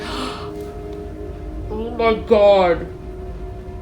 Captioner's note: gasps